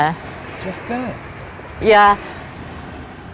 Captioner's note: voiceover